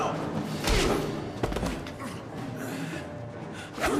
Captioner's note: punch thudding; suspenseful music